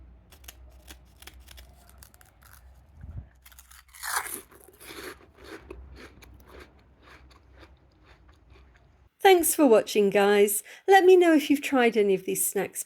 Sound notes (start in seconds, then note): 3.3 crunching sound